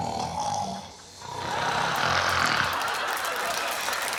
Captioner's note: snoring